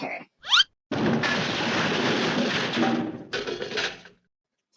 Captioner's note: crash!